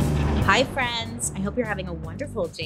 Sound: thunder roars

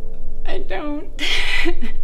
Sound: Andrea sobbing

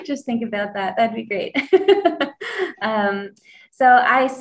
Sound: laughs

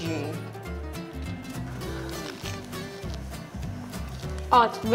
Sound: crunching

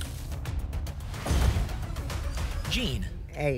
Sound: thump; whoosh

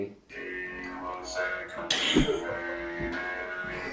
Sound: robotic voice

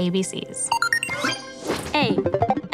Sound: electronic beep

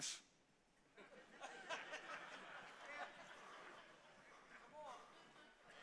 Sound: congregation laughs

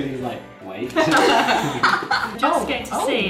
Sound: laughing

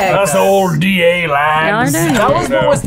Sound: in Scottish accent

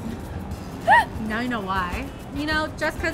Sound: laughs

